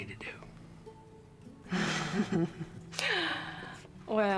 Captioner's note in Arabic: ضحكة مكتومة